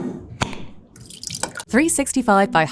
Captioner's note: sauce sloshing; jar scraping; jar cap clacking